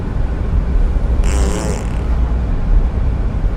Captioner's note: farts, is proud of it